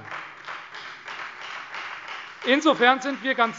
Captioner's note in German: Demonstrativer Beifall Freie Demokraten